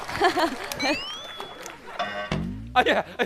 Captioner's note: delayed laugh